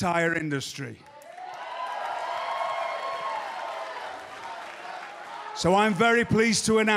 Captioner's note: cheers and applause